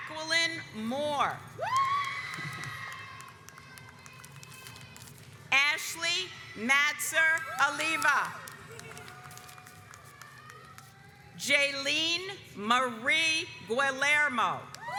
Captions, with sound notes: Jacqueline Moore (audience cheers) Ashley Matzer Aliva (audience applauds) Jailene Marie Guillermo